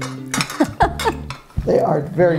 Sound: amused giggles

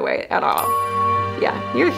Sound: metal chimes

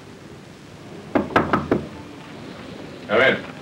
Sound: door knocking

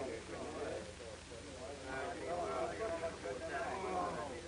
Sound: hospital staff chatters

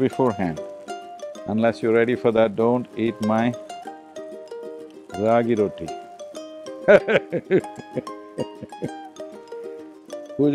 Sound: laughs

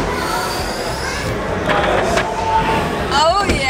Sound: sci-fi whooshing

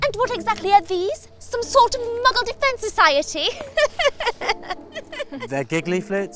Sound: laughs

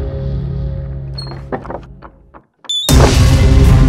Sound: doors closing

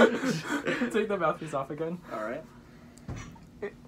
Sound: laughter

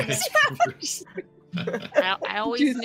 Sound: group laughing

